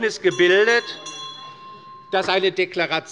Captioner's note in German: Anhaltende Zurufe - Glockenzeichen des Präsidenten